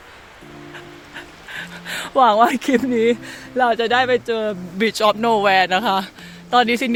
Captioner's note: laugh